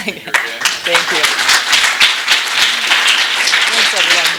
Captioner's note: applause